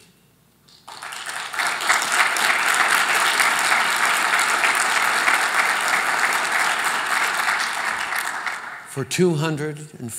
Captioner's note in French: Applaudissements